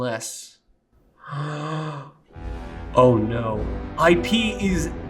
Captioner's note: Web gasps